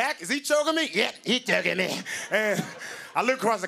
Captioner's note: strained